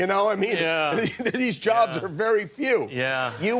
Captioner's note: laughter